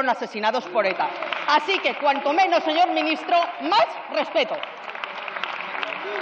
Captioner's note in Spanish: Fuertes aplausos.-Varios diputados: ¡Muy bien, muy bien!